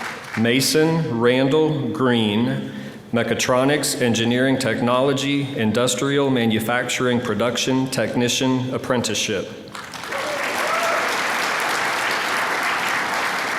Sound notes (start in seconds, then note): 9.7 applause